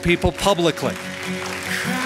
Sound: applause

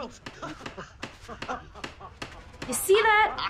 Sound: SOUND: laborers laughing

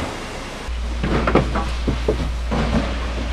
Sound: rattling

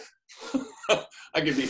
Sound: laughs

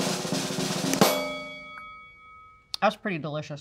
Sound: drum roll; bell dings

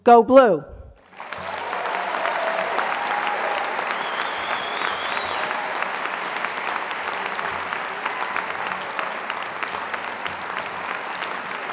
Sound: applause

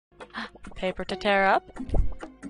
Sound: gasp

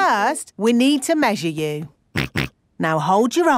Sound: snorts

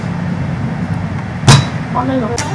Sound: smol desk slam

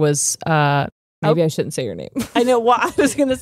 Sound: chuckles

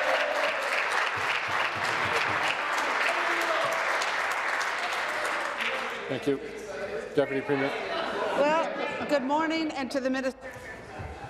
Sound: applause

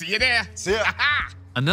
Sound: laughs

